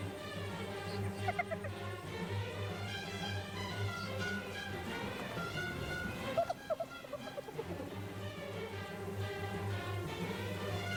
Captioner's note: laughing